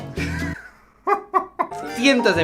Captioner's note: laugh